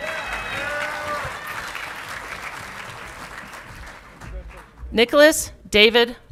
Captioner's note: audience clapping and cheering